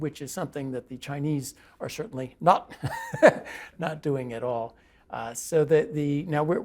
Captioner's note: laugh